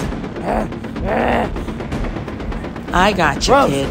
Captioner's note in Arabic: رجل يشخر